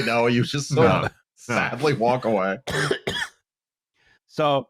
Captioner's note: coughing